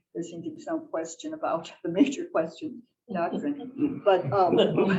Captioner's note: laughter